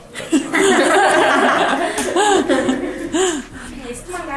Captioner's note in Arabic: الكل يضحك